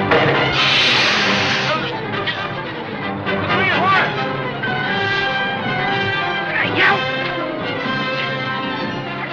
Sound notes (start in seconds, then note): 0.2 gun firing; 0.8 groans; 7.2 yells